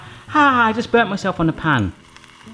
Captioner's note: groans